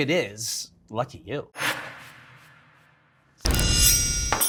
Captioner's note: screen whooshing; bright upbeat music